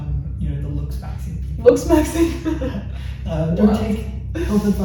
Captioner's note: laughs